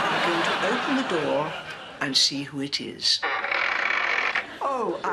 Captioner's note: creaking